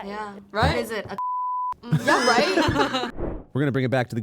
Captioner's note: beep